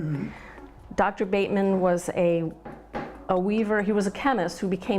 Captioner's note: banging